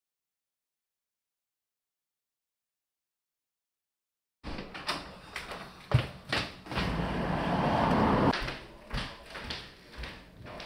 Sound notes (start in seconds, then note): 4.3 door opening; 6.7 vehicle rumbling